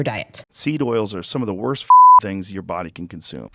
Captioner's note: beep